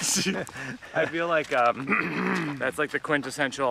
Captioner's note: Mike laughs; clears throat